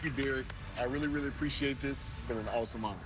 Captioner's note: applause